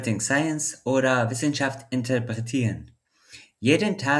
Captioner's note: in German